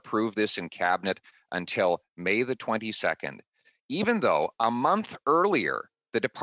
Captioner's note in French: voix de l'interprète